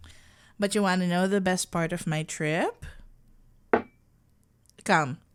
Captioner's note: sound of something being placed down